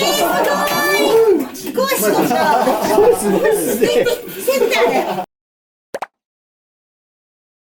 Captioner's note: laughs